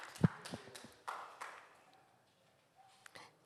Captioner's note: audience Applauding